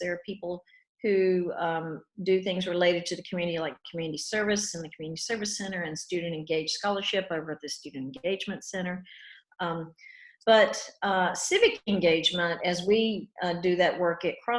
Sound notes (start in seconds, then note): none